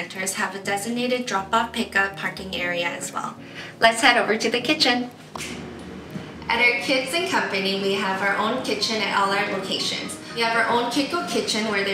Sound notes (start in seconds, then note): 5.3 finger snap